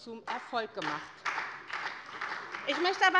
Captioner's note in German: Beifall bei der SPD und bei Abgeordneten der CDU